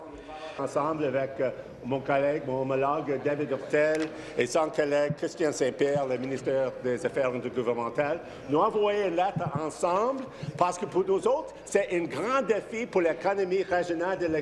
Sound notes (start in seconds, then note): 1.5 speaking in French